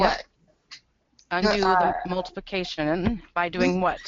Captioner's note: voiceover